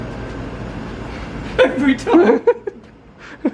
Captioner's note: laughs